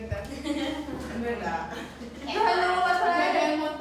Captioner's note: giggling